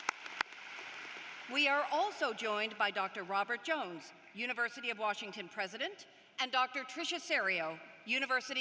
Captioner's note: applause